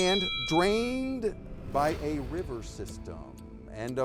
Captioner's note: time bell dinging